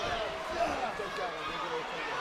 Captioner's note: wrestler grunting; crowd yelling